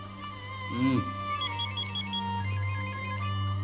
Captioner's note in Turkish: Telefon çalıyor